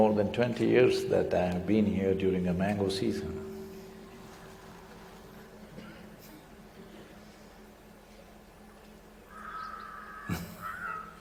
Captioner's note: laughs